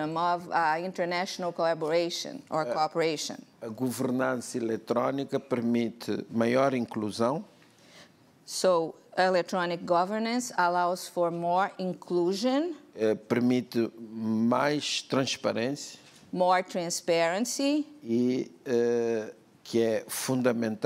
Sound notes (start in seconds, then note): 4.9 speaking portuguese; 14.2 speaking portuguese; 19.3 speaking portuguese